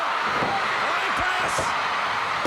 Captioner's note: crowd cheering